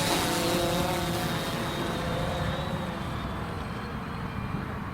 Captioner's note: humming fading